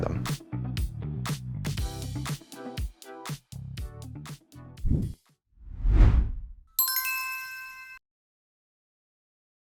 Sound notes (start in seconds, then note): 1.6 upbeat music; 6.8 logo chiming